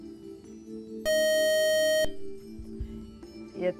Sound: beeping

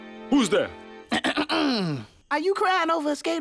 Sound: clears throat

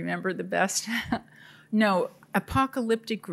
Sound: laughing

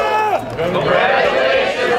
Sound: cheers

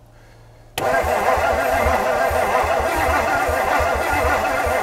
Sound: vehicle engine humming

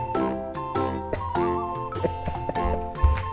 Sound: laughs

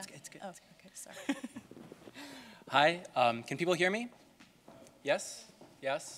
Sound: laugh

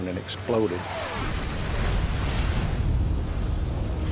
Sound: explosion

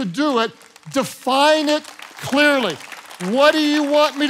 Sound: congregation clapping

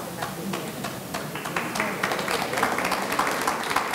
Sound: audience clapping

